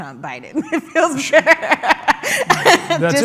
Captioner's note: laughs